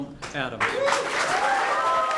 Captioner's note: applause